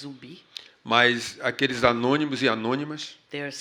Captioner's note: speaking portuguese